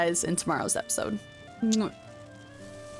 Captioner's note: kiss